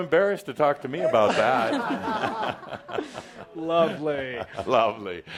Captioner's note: laughter